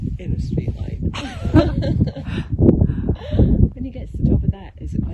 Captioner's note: both laughing